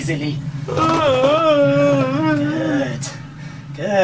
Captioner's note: monster groaning